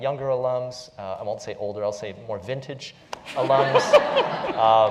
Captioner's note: laugh